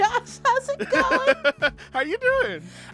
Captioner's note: laughter